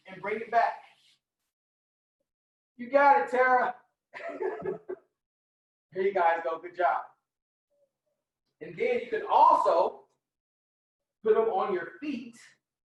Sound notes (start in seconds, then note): 4.2 laughing